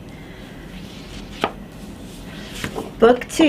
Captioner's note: pages rustling